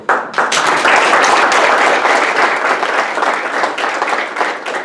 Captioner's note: audience applause